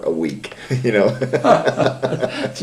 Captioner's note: laughter